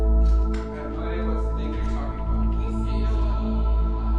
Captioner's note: adults talking